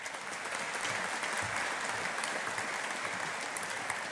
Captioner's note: audience applauding